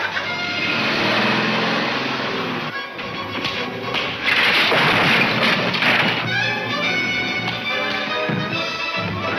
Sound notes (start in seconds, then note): 2.5 smacking; 4.0 clattering